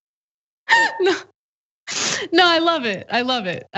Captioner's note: laugh